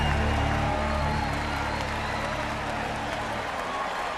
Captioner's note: applause